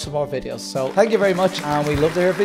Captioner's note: applause